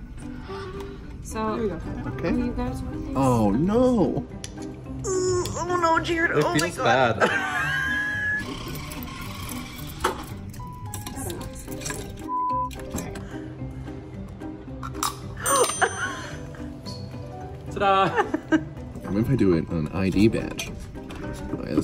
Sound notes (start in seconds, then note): 5.2 painful screeches; 7.2 laughs; 8.6 keys rustling; 12.3 beep; 14.8 can cracking; 15.5 dinging